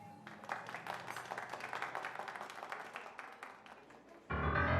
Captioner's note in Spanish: aplausos